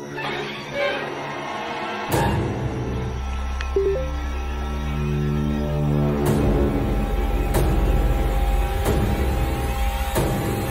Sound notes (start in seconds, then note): 3.7 phone notification tone; 6.2 suspenseful horror music build up